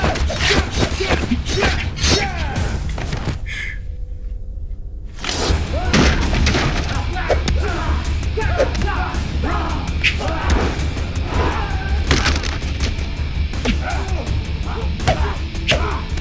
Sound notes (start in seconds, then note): 1.7 thudding; 6.0 clattering; 9.9 whooshing; 13.7 thudding